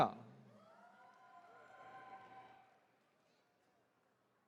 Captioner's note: attendees cheering